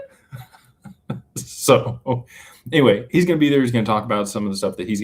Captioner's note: laughter